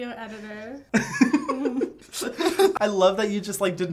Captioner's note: both laughing